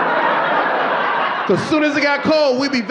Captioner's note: audience laughing